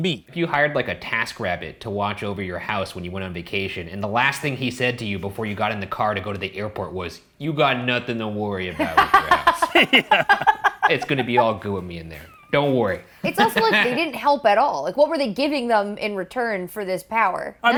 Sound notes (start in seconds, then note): 8.7 laughing